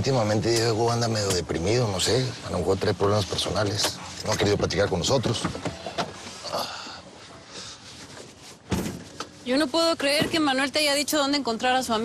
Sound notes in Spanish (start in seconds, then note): 6.9 quejido